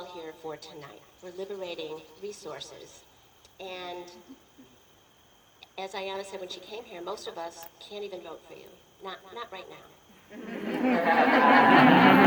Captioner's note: laughter and applause